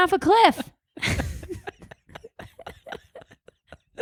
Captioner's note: both laugh